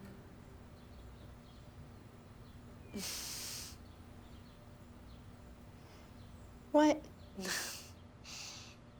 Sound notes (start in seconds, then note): 2.8 Wendy chuckles; 7.2 Wendy chuckles